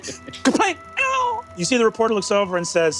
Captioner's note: mimics whiskey falling